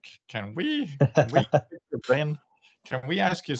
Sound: laughter

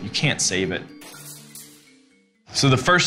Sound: glass breaking

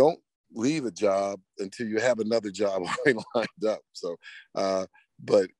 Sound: laughs

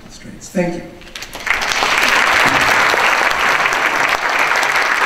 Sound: audience applause

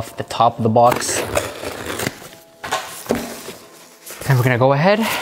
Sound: knife scrapes

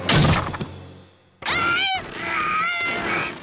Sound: grunting

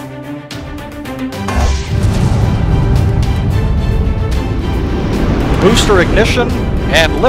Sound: rocket sounds

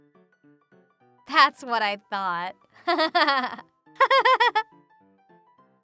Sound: giggles

